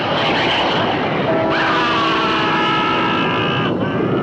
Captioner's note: witch screams in agony